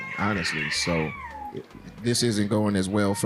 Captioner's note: baby crying